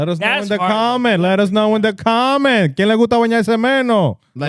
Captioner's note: speaking In Foreign Language